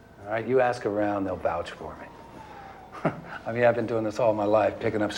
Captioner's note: chuckling